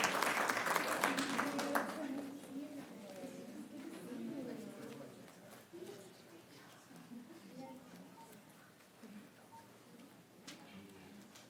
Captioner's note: applause